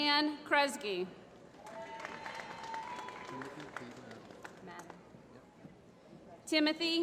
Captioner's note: applause